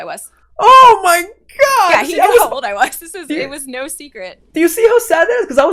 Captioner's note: laughs